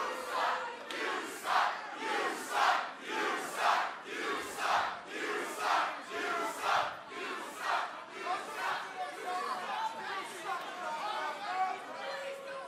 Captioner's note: fans chanting